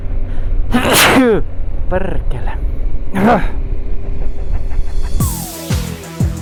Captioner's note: sneeze